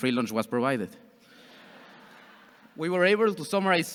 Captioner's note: audience chuckles